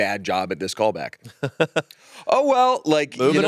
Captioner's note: chuckles